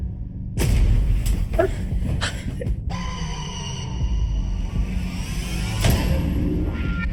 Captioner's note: power booming; child gasping